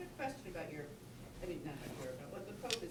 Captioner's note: voiceover